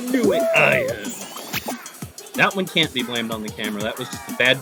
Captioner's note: groans